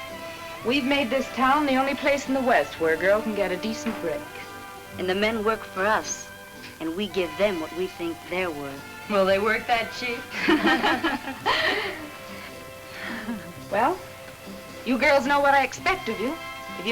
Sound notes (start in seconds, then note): 10.3 women laugh